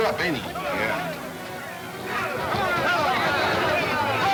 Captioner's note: men yelling simultaneously